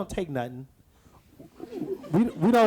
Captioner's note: audience laughs